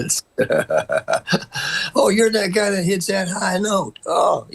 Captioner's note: laughter